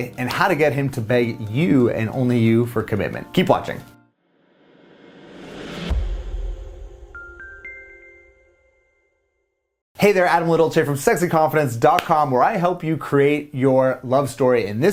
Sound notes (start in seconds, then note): 7.2 gentle chiming